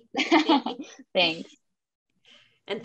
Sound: laughs

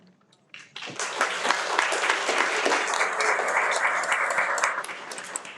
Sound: everyone applauds

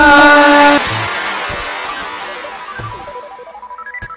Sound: rocket sounds

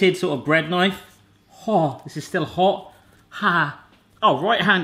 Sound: gasps

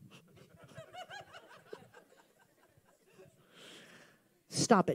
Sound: congregation member laughing

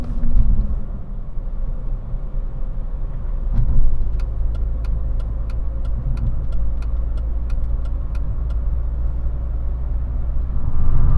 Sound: engine noise and turn signal clicking

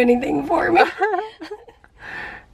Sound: chuckling

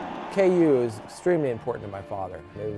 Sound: cheering

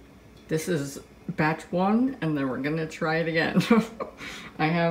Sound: laughs

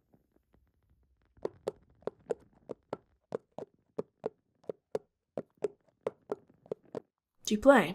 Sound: footsteps

